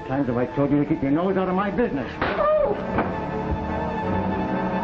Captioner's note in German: Ohrfeigen